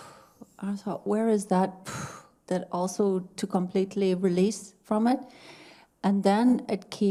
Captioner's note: strong exhale; strong exhale